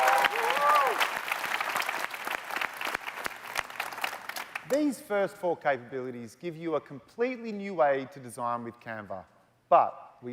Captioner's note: cheers and Applause